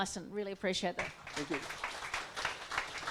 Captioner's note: audience applauding